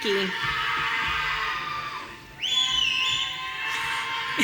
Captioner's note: audience cheering